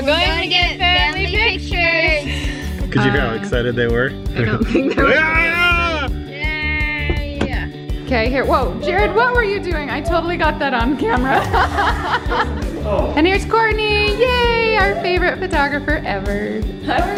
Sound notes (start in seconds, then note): 5.5 screaming; 12.1 laughing